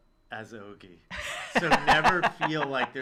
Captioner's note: laughs